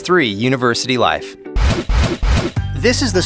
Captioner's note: whooshing noises